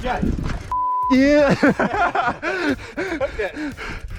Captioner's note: both laugh